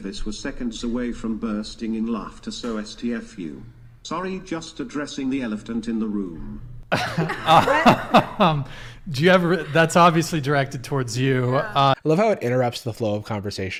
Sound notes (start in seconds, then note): 6.9 laughs